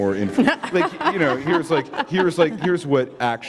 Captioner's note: laughter